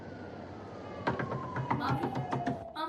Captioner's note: knock on door